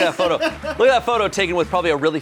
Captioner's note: crew laughs